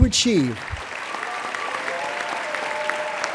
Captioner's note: applauding